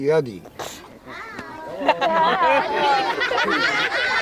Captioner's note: children laughing